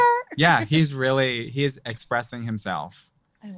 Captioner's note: both laughing